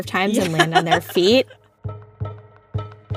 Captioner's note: laughs